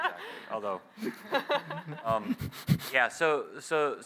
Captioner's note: laughter